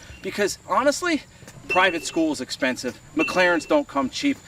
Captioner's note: bell dings